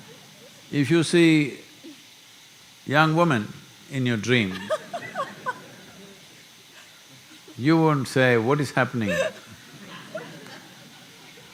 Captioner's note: laughter; laughter